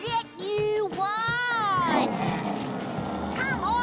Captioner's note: squirrels growl